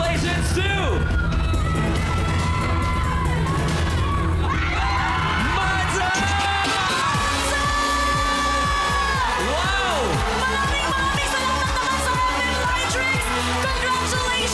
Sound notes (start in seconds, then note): 5.5 audience cheering